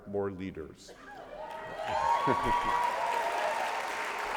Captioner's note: applause